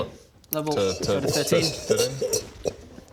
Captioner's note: over-confident guffaws